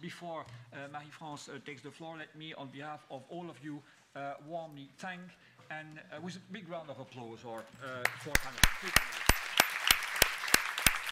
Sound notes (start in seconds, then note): 8.0 applause. End